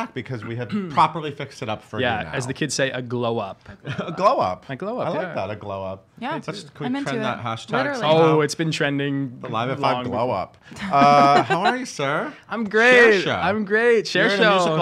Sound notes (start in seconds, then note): 10.8 laughing